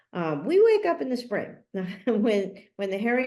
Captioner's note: chuckles